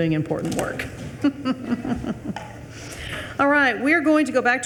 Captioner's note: chuckling